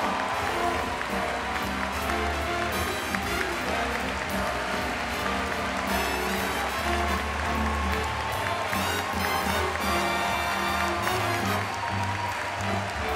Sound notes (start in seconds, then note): 0.0 applause